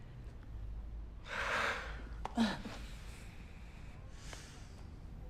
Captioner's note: both sighing